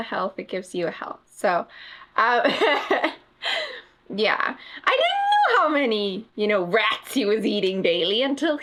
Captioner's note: laughs